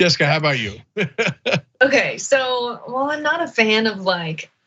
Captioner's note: laugh